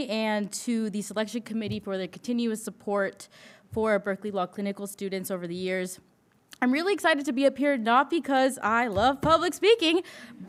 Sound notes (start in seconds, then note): none